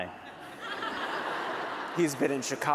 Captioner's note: laughter